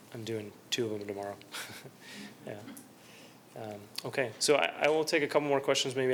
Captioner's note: laughter